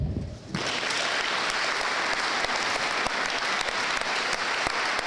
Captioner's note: audience applauding